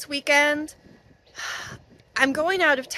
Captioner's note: sigh